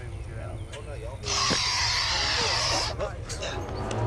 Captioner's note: alligator hissing